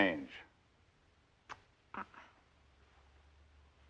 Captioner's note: clicks Tongue